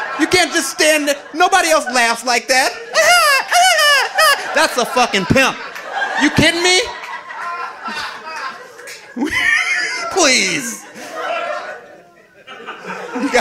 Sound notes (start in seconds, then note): 2.6 high pitched laugh; 5.4 audience laughing; 8.0 audience laughing